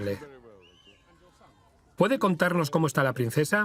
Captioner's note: voiceover